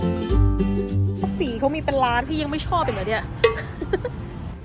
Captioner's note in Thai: หัวเราะ